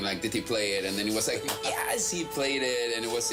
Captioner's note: clapping